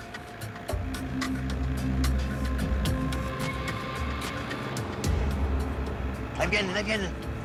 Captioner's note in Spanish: Sonido de motor